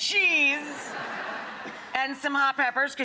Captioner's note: audience laughing